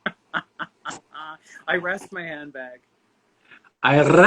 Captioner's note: laughing